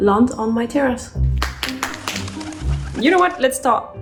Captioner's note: hands clapping